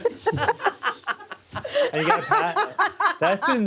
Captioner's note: laugh